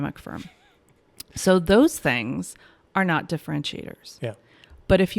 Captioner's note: chuckles